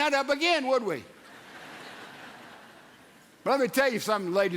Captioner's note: audience laughs